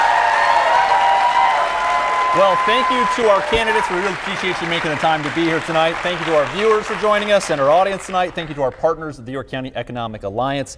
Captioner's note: applause